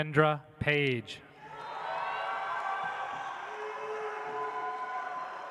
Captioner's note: audience applauds